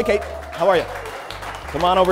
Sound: cheers and applause

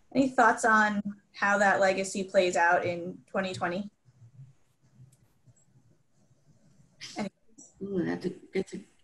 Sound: pause

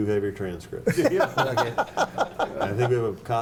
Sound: laughing

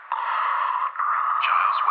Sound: Giles breathes heavily

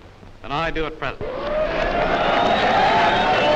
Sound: crowd Cheering

